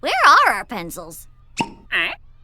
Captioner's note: questioning grunt